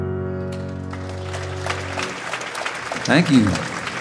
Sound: audience applauding

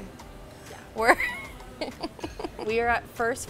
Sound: laughing

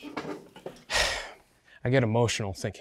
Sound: sighing

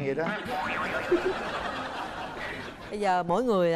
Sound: laughing

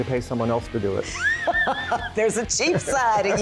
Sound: laughing

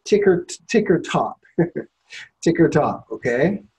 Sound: laughs

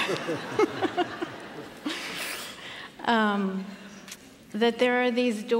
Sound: laughter

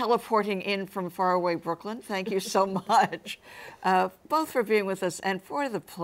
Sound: laughs

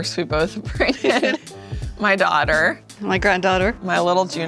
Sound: laughing

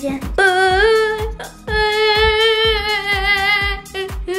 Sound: crying noises

